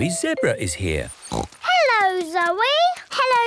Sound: snorts

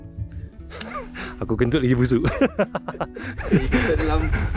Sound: laugh

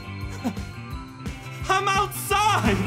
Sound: laughs

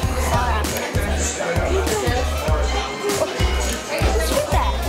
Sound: chattering

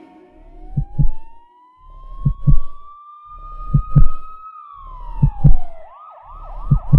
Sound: ambulance sirens; heart beating

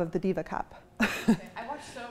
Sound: chuckles

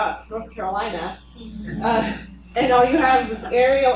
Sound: laughing

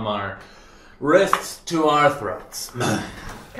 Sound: coughs

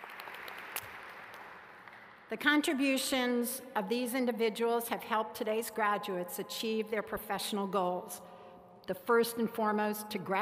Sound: applause

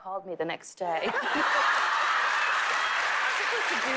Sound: laughter

